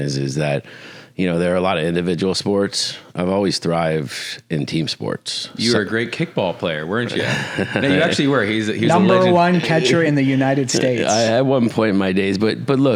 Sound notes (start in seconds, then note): 7.1 laughs